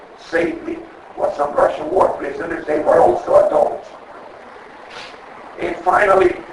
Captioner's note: sniffs